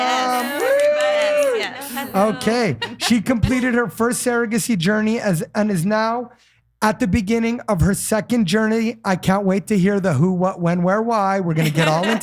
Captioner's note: cheering